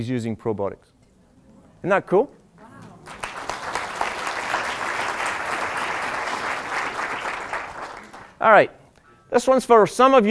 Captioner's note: applause